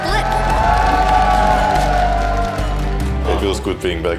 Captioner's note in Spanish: Aplausos